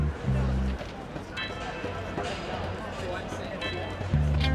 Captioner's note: indistinct chatter